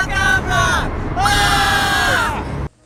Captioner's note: screaming